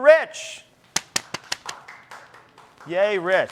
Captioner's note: people clapping